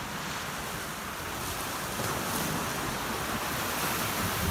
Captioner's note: waves crashing